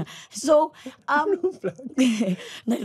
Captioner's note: laughing